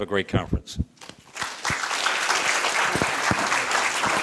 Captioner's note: applause